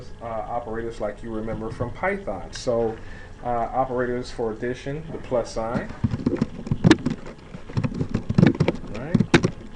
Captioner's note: typing sounds